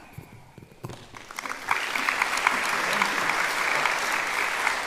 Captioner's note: applauding